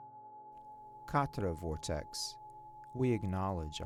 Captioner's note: tone reverberating